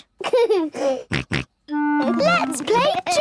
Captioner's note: giggles, snorts